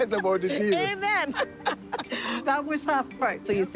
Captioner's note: laughing